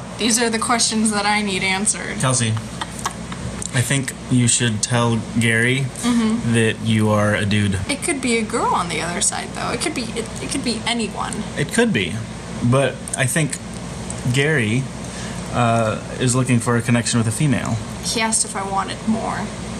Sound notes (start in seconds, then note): 2.5 laughs